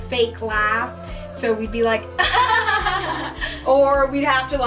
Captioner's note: both laughing